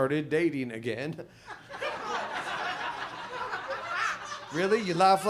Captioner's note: audience laughs